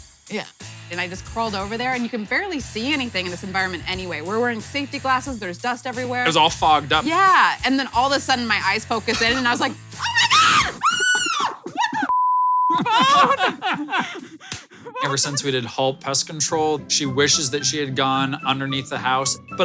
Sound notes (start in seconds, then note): 12.1 beep; 12.7 laughs